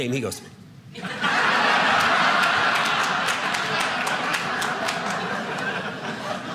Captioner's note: audience laughing